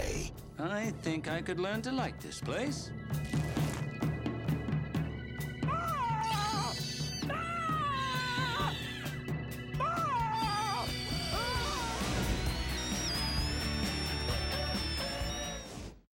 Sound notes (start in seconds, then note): 5.7 screaming; 5.7 shrieking